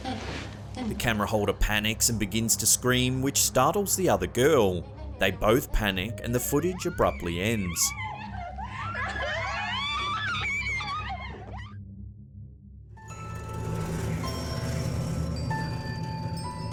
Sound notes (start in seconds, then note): 7.8 screaming; 13.3 gentle ominous music